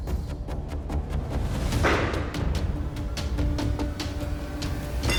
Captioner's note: chopping